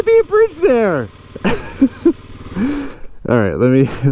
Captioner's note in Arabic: يضحك